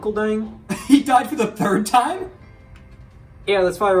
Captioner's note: laughing